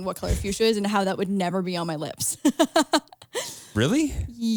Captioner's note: laughs